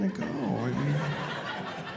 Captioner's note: audience laughing